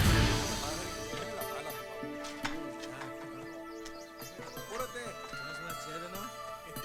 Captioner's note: slow guitar music; men speaking in foreign language